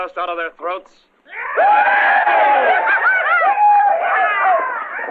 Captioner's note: cheering